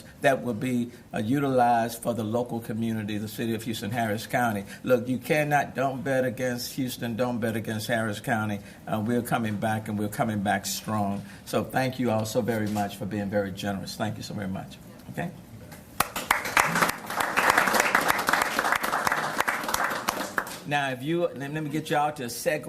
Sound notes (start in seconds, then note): 11.3 cheers and applause